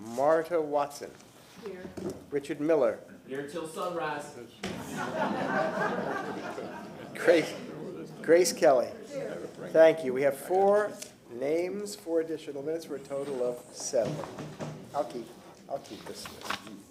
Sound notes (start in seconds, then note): 7.8 laughter